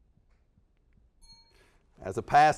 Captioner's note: dings